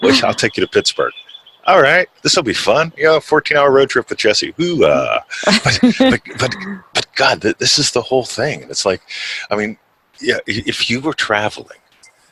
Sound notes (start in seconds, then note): 5.4 laughs